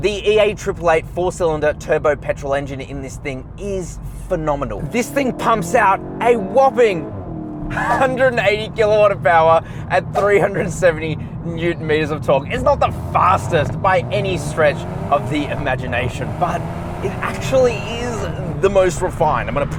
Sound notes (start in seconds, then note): 4.0 car engine accelerating